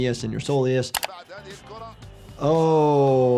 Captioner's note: commentator talks in foreign language